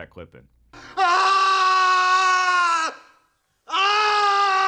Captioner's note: man screaming